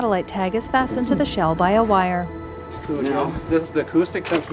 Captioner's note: turtle gulping